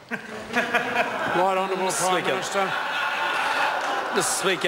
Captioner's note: members laugh